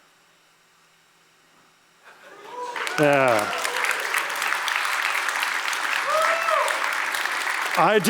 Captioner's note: applause